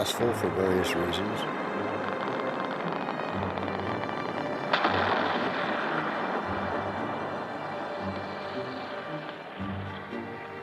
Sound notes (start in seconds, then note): 4.6 explosion echoes